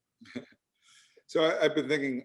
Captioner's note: laughs